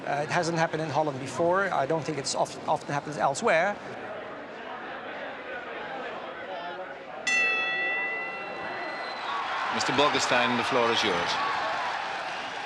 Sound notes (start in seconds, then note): 3.7 audience chattering; 7.2 bell rings